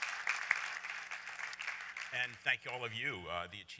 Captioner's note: applause